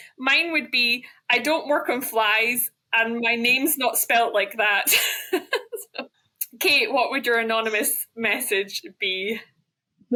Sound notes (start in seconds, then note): 4.9 laughs